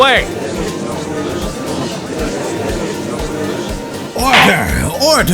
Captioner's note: gallery chattering